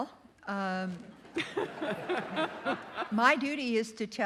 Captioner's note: audience laughing